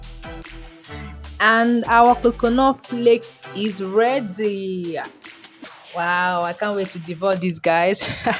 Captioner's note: laughs